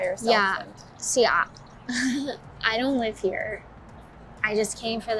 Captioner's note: laughs